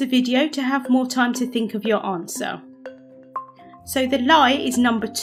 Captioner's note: timer beeps